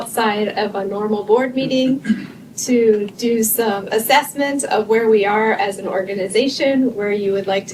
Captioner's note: clears throat